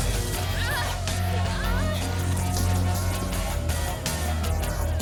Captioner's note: energetic rock music; women moaning